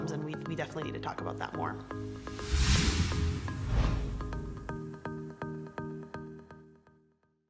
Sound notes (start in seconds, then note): 1.9 air whooshing; 3.3 soft music